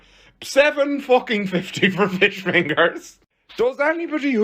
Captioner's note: laughing